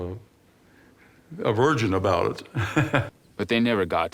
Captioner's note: laughing